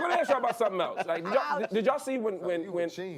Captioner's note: laughter